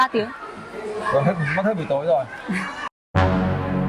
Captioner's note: chuckles